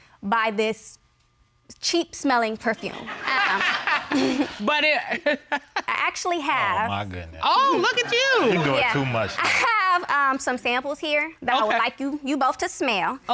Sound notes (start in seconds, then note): 2.9 all laugh; 3.0 laughs